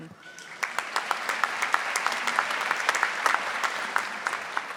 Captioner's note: audience applauding